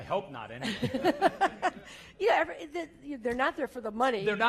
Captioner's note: laugh